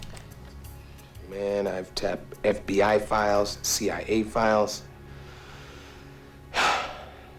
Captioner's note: sighs